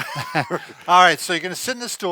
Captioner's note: laughing